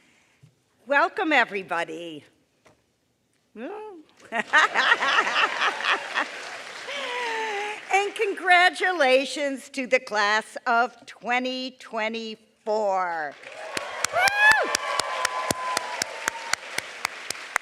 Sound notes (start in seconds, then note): 4.6 applause; 8.4 chuckles; 17.2 applause